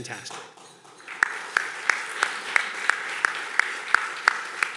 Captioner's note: everyone clapping